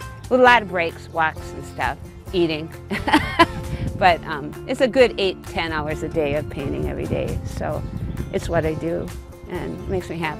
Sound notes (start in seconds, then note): 2.9 laughs